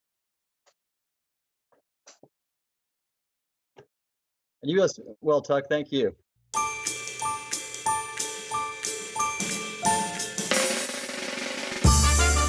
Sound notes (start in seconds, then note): 6.5 chiming; 11.0 drum roll; 12.3 jaunty music